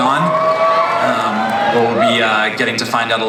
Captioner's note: audience cheers